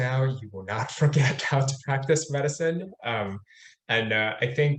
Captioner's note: laughing